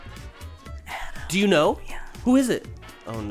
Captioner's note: whispering